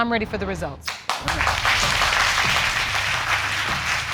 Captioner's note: audience applauding